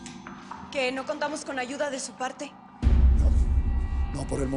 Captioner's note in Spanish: none